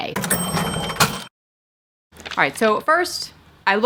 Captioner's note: cash register ringing